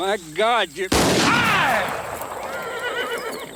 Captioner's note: gun fires; Anthony groans; horse neighs